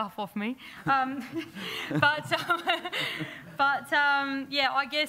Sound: laughter

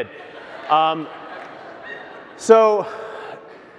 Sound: crowd laughs

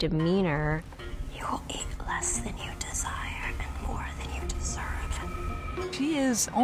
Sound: whispering

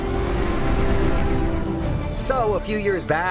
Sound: roller coaster rumbles

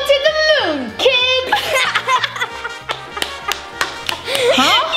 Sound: laughing

